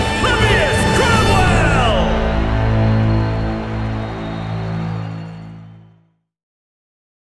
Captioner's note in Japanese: 歓声